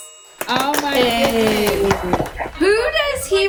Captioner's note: family applauding